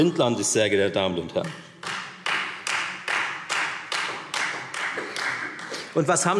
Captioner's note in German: Beifall Freie Demokraten